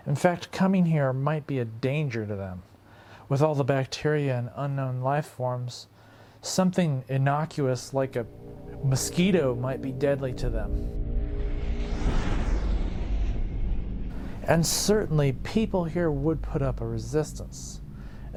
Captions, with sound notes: In fact, coming here might be a danger to them. With all the bacteria and unknown life forms, something innocuous like a mosquito might be deadly to them. (mysterious music) (spacecraft engines roaring) And certainly, people here would put up a resistance,